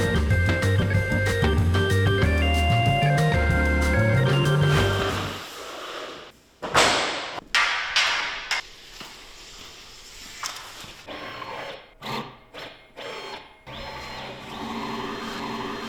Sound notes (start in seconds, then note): 7.1 metal clanging; 12.1 machine buzzing